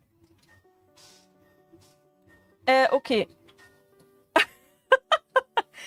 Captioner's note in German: Schnauben; Gelächter